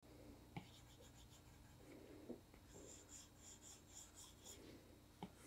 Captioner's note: pencil scratching